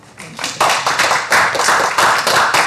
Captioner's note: applause